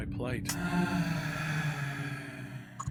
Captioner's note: Chamuel sighs